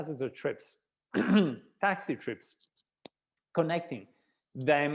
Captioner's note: clearing throat